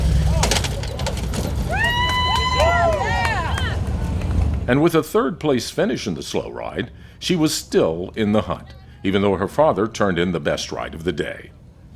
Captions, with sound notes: (crowd cheers) And with a third place finish in the Slow Ride, she was still in the hunt, even though her father turned in the best ride of the day.